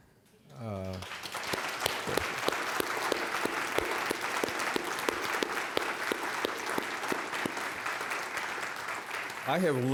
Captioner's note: applause